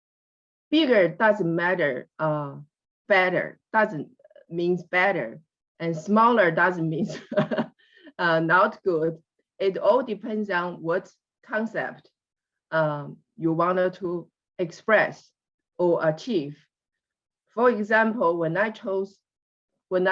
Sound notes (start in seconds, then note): 7.0 laughs